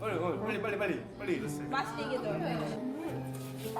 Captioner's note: speaks Korean